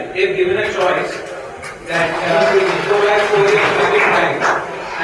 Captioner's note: applause